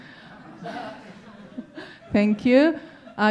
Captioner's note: audience laughing